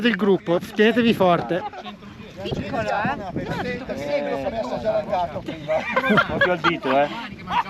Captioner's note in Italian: Risate